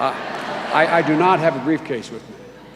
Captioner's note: laughter